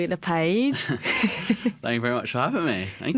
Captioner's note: laughter